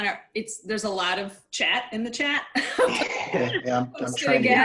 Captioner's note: laughs